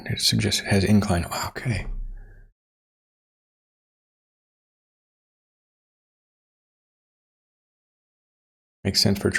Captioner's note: silence